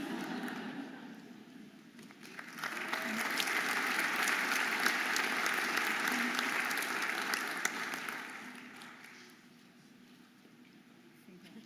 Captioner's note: audience applauding and cheering